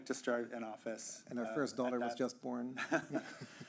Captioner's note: chuckling